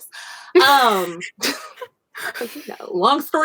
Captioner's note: laughs